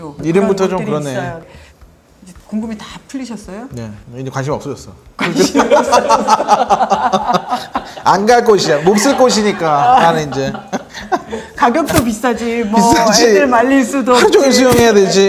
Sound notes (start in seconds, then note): 5.2 hahahahahahaha